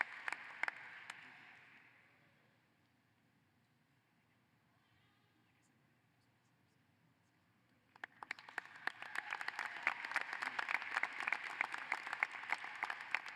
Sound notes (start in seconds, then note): 1.3 applause